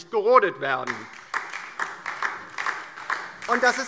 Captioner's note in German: Beifall DIE LINKE